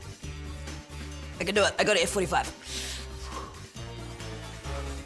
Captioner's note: exhales